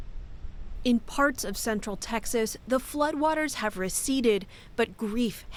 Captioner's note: voice-over